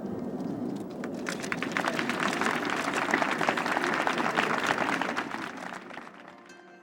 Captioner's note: applause